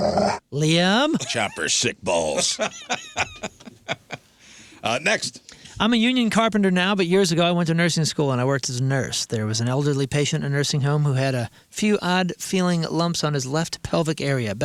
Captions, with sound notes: Liam. Chopper sick balls. (laughing) Next. I'm a union carpenter now, but years ago, I went to nursing school and I worked as a nurse. There was an elderly patient in a nursing home who had a few odd feeling lumps on his left pelvic area.